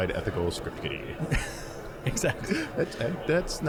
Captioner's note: laughing